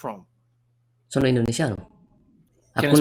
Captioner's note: Italian